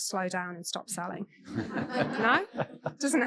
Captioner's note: audience laughing